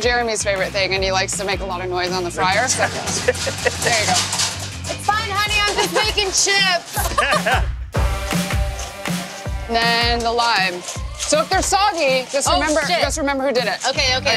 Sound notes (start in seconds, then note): 3.8 clattering